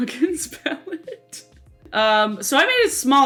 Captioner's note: laughing